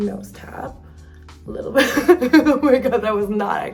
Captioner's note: laughs